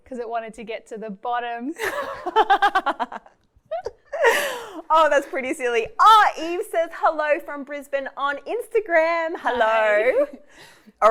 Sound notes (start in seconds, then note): 1.8 laughing